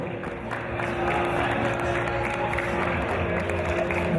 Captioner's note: applause